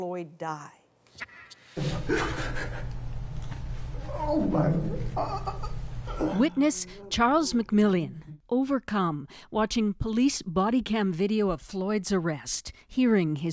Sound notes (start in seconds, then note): 5.1 crying